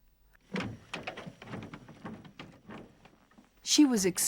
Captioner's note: wood clanking